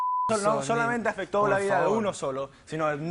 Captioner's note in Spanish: Bip